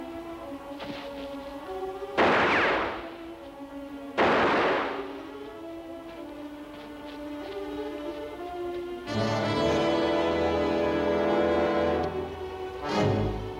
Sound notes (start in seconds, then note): 2.0 gun shots; 9.2 intense music